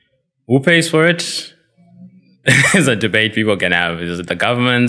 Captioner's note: laugh